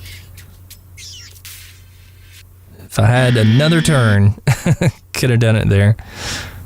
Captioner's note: haha